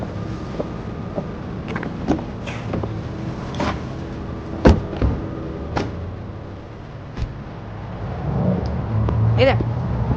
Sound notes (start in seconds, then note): 5.0 car doors opening